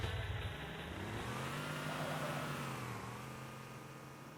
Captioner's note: Warthog Revs